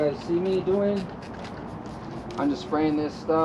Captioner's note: spray can hissing